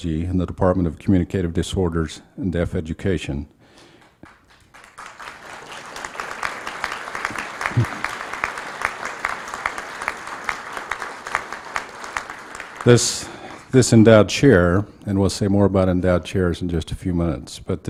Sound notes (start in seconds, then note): 3.1 applause